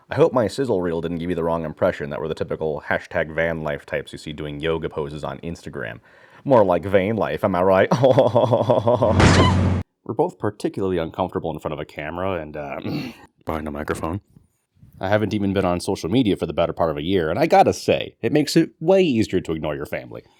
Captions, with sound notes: I hope my sizzle reel didn't give you the wrong impression that we're the typical "hashtag vanlife" types you see doing yoga poses on instagram. More like "vainlife", am I right?! Haw-haw-haw-haw-haw-haw *SPLAT* We're both particularly uncomfortable in front of a camera and uh *clears throat* behind a microphone . . . I haven't even been on social media for the better part of a year and I gotta say, it makes is WAY easier to ignore you family.